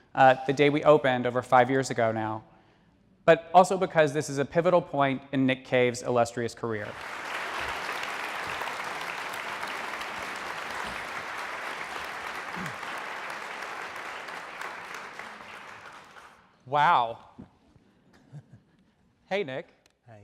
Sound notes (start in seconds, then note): 7.5 audience applaud